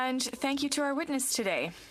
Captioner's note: speaking French